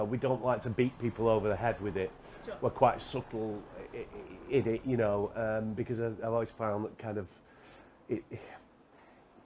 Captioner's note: sighs